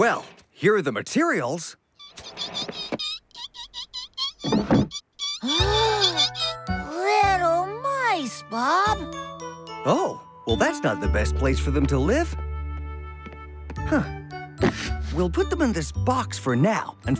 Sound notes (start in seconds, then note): 2.0 squeaks Continue; 5.4 Bob & Roley Gasp